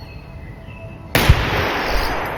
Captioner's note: gunshot